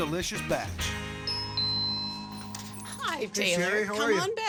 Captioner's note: door bell